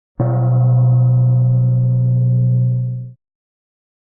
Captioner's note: gong sound